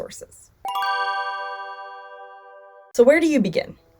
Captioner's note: ding!